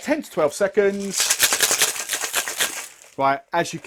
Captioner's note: rattling noises